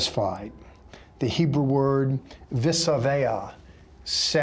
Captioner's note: speaking Hebrew